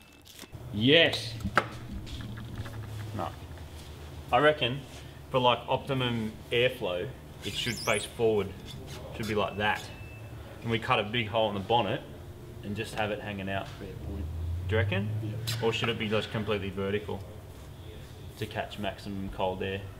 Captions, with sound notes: YES! Nup. I reckon, for, like, optimum airflow, -it should face forward. -[squeaks] It should be like that. And, we cut a big hole in the bonnet, -and just have it hangin' out. -Fair point. -Do you reckon? -Yep. Or, should it be just so it's completely vertical? To catch maximum cold air?